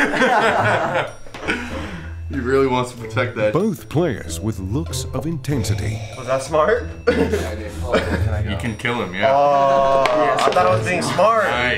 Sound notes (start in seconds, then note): 0.0 laughter; 7.0 laughs